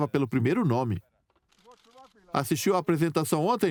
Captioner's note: voiceover